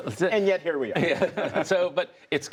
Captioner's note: laughter